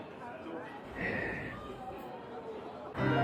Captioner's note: sighs